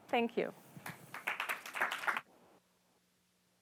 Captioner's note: applause